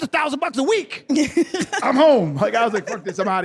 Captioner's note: laughter